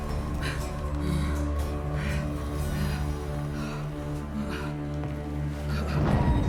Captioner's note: heavy breathing continues; muffled clatter